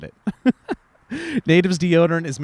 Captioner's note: laughs